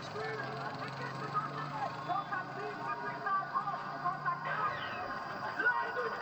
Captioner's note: village sounds